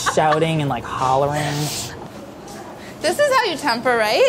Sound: laughs

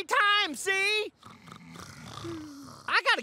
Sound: snoring

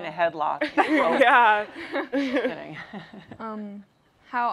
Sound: laughter

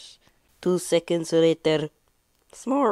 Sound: supposed to be french accent

